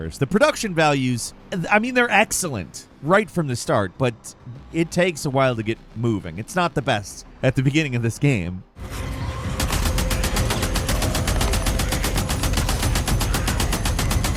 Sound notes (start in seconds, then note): 9.5 gun shots sounding